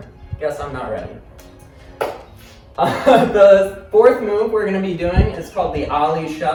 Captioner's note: laughing